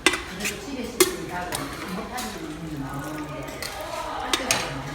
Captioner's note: korean conversation